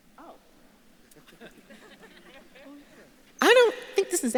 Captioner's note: audience laughs